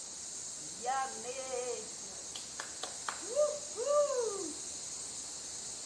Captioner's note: claps